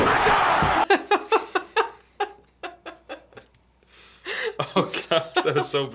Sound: laughing

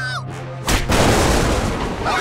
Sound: thundering

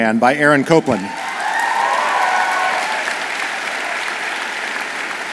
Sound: audience applauds

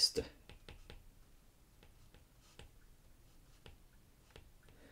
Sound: screen tapping

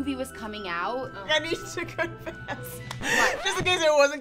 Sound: laughing

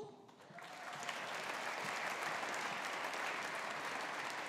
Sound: audience applauding

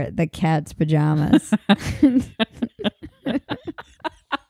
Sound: laughing

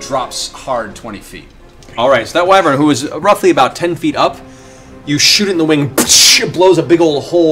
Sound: psh!

